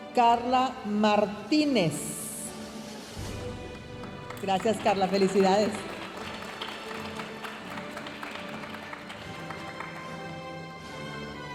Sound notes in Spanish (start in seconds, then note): 6.3 aplausos de la audiencia